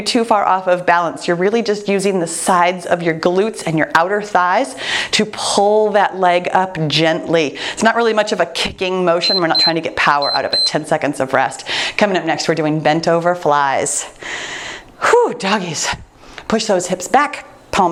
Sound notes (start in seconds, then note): 9.2 timer beeps